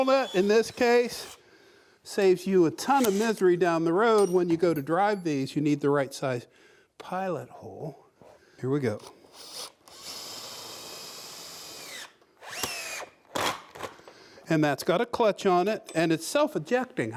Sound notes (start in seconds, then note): 9.2 drilling